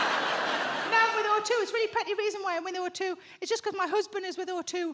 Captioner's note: audience laughs